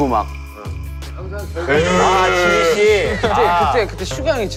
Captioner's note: cried